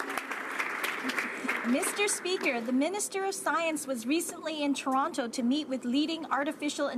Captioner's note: some Applause